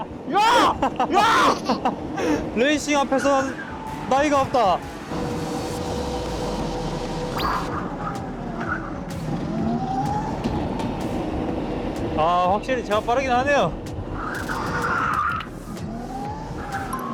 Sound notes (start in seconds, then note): 14.2 bang